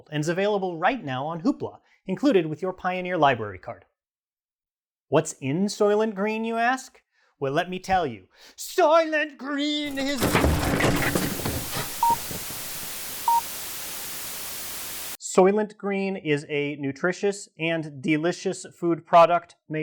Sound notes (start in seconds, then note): 8.5 drammatic shouting; 9.8 crashing sounds; 12.0 Static